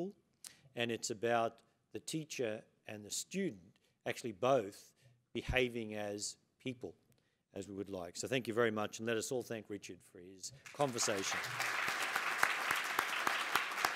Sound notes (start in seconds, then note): 10.6 applause